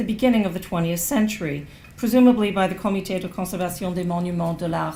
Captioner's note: non-english speech